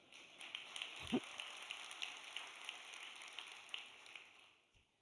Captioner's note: audience applauds